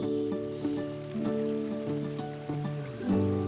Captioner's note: water flowing